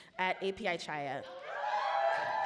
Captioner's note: audience laughs; audience cheer